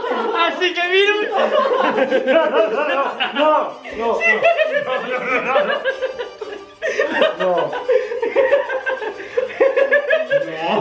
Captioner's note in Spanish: Risas Maleficas